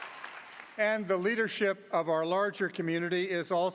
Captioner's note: applause